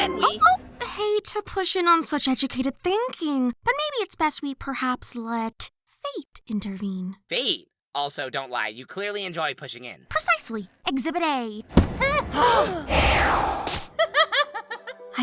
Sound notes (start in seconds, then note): 12.0 all gasp; 14.0 clover laughs